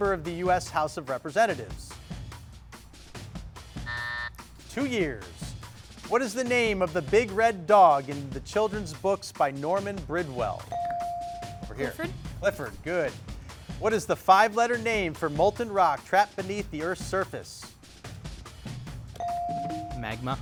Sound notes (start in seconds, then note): 3.8 buzzer sounding; 10.7 bell chiming; 19.2 bell chiming